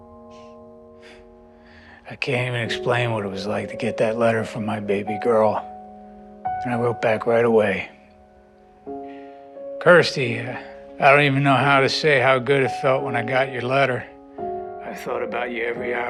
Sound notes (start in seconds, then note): none